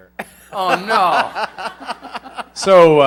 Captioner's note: laughter